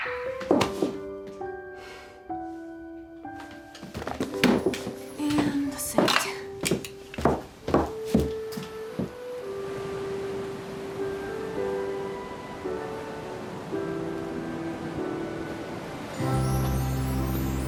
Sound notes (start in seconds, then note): 1.8 dropping hands, sighs heavily; 8.7 ocean waves rolling in